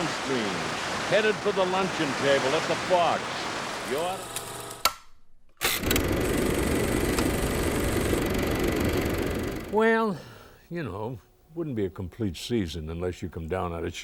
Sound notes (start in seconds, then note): 4.2 film reel clicking